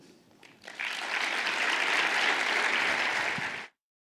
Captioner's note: audience applauding